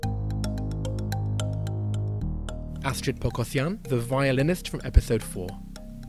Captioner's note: voiceover